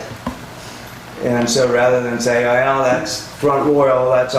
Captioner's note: none